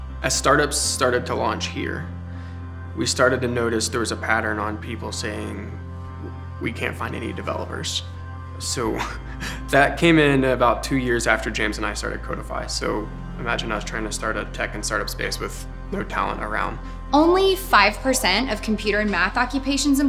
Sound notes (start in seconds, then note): 9.0 laughs